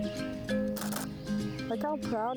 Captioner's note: camera clicks